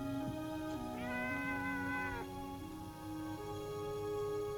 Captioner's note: cat meowing